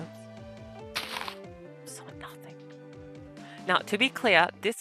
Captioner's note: block breaks; whispers